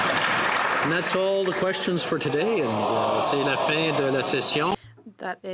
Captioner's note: some Applause